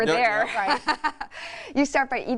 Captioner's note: laughing